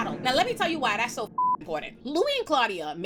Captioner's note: beep